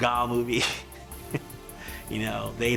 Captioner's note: laughs